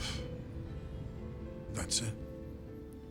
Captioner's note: sighs